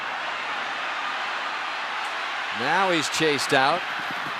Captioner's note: cheering